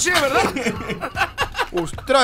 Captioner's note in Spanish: Risas